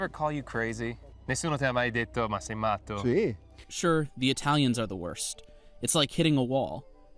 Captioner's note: through translator